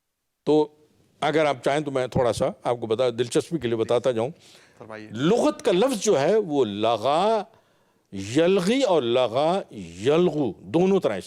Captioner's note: Arabic